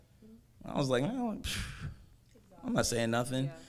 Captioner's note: scoffs